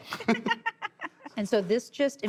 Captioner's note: laughter